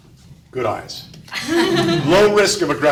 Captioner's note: audience laughs